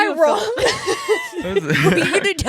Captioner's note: laughing